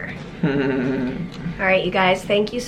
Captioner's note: chuckles